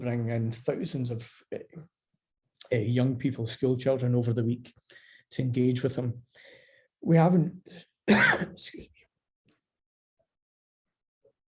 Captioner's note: coughs